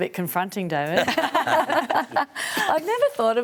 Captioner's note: laughs